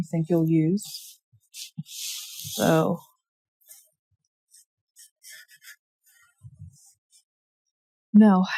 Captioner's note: drawing noises